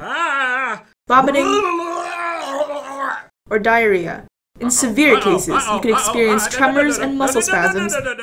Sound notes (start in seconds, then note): 0.0 coughing sounds; 0.0 groaning sounds; 1.2 vomiting sounds